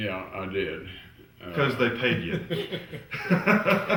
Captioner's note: laughter